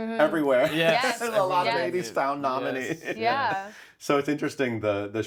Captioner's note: laughs